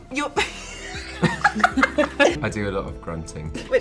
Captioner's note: laughing